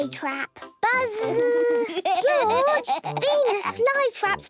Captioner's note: George laughing